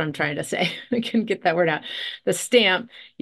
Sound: chuckles

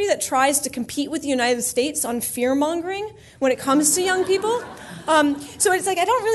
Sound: laughter

